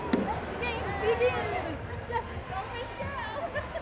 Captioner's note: cheering